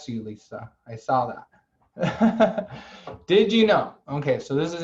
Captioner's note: laughter